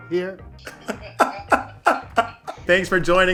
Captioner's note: laughs